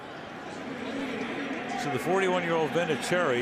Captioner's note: pa announcement